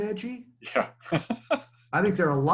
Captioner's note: laughs